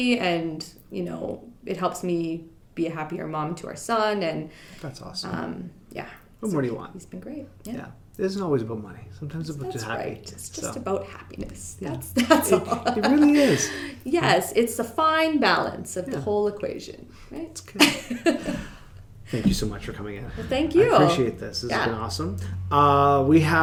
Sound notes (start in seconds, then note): 12.1 laughing